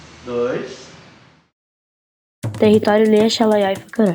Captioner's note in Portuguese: narração infantil